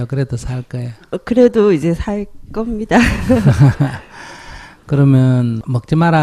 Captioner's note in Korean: 스님과 질문자 웃음